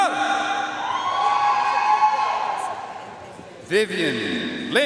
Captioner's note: audience cheering and applauding